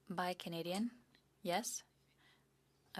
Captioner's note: speaking French